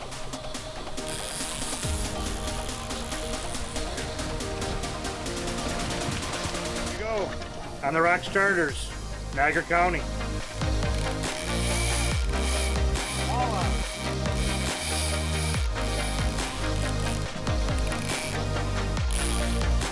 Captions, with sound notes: (fishing pole reeling) - There you go! On the Rocks Charters, Niagara County. (upbeat music)